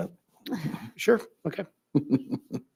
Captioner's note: laughs